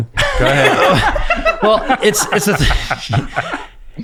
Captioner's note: laughing